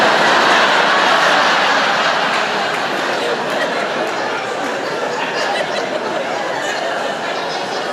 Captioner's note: laughter